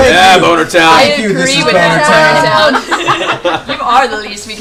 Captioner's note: laughter